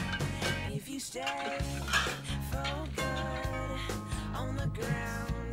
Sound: doorbell rings

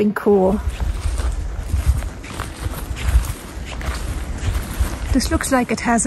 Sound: sound of foot steps in the grass

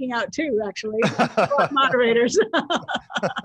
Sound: panelists laughing; laughs

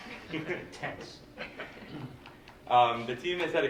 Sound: laughter

